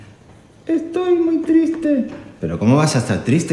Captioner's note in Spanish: con voz aguda